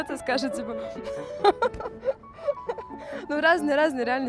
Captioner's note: laughter